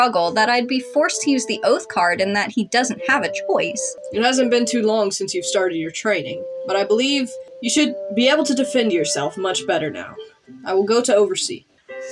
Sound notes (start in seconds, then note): none